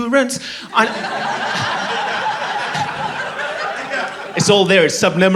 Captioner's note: laughter